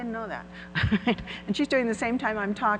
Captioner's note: laughs